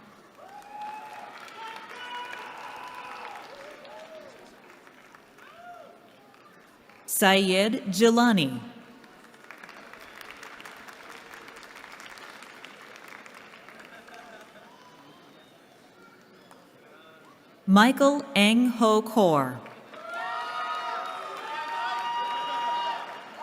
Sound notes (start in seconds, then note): 0.1 cheering; 8.9 applause; 19.8 cheering